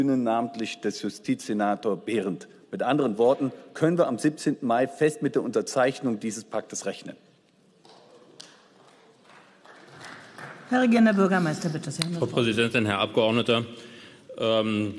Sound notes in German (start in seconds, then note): 8.3 Beifall